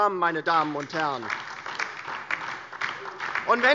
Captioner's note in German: Beifall DIE LINKE und SPD